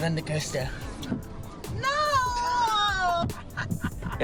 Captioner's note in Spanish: risas